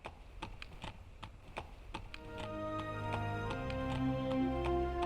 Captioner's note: horse hooves clomping